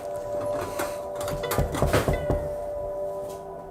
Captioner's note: Llama a la puerta; knocking on door